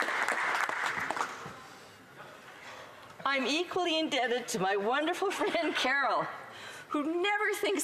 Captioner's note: some Applause